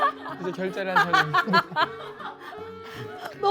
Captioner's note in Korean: 빵 터짐